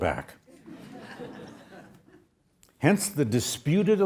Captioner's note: audience laughs